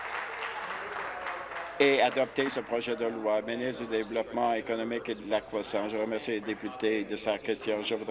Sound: applause

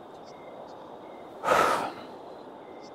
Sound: sighs

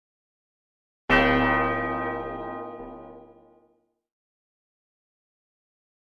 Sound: church bell

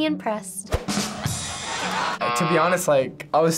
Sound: canned audience laughs; rimshot echoes

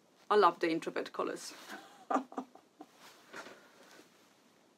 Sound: chuckling

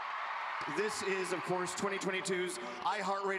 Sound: cheers and applause

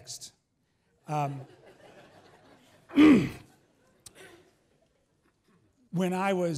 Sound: laughs

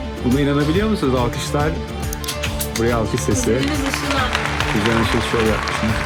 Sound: applause here

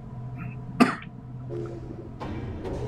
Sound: coughs

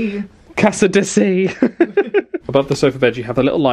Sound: laughs

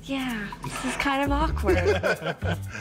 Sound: laughter

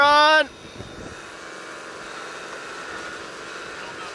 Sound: buzzing

